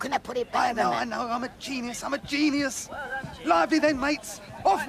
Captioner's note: chatter